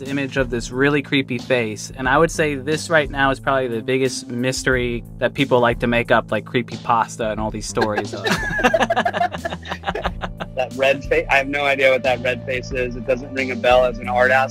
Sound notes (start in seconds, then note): 7.7 laughs